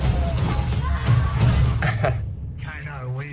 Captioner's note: laughs